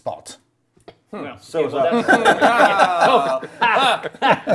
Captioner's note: group laughs